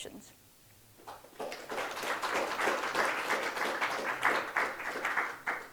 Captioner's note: audience applauds